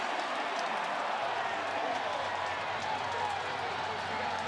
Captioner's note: cheers